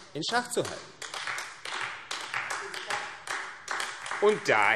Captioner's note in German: Beifall AfD